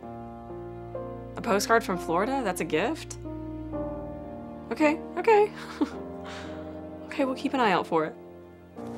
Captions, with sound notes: A postcard from Florida? That's a gift? Okay, okay. (chuckles) Okay, we'll keep an eye out for it.